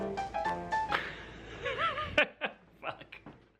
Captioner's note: laughs